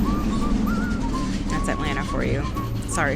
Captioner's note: loud car drives